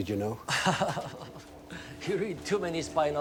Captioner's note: person laughing